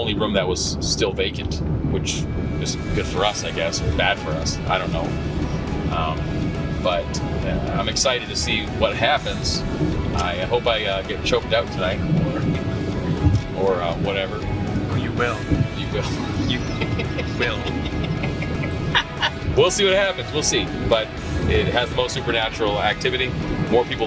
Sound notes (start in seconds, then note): 18.6 laughs; 20.5 both laughing